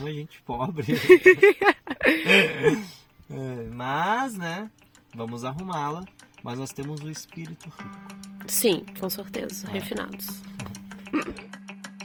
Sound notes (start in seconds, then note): 0.9 laughs